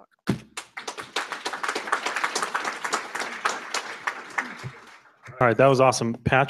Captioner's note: applause